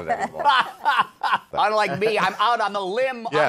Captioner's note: laughs